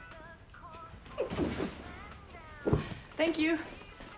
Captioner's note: box thudding